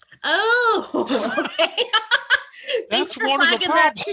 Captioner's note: laughs